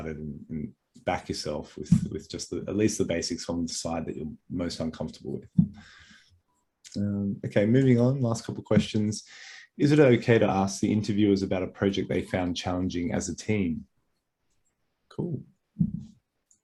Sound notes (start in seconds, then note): none